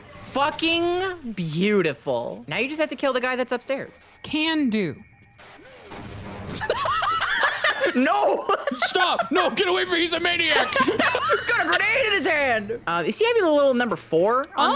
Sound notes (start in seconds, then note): 6.5 both laugh